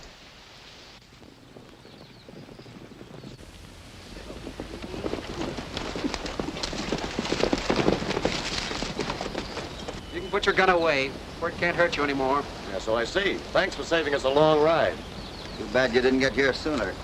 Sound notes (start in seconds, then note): 0.9 horses trotting